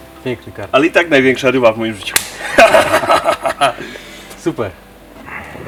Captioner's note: laughing